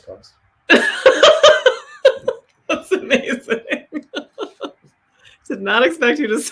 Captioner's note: laughs